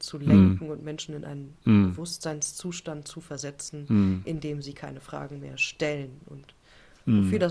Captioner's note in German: räuspern